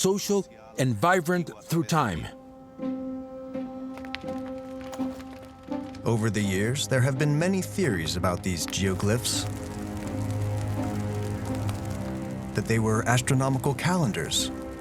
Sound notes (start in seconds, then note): 3.9 fire crackling